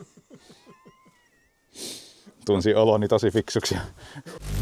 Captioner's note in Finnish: naurua